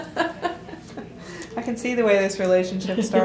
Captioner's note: laughter